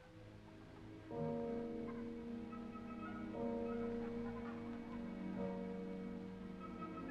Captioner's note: church bells ringing; men chattering